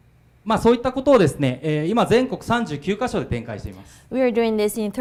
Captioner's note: speaking foreign language